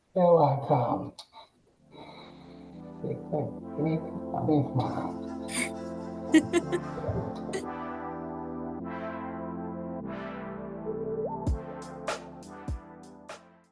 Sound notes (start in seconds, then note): 2.5 uplifting music; 4.1 mumbles excitedly; 6.3 people laugh